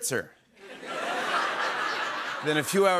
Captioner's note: laughter